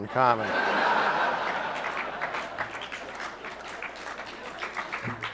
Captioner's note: audience laughs and applauds